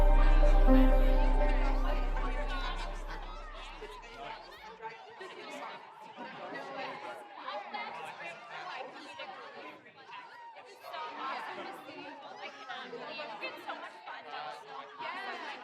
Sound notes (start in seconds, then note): 3.3 people chatting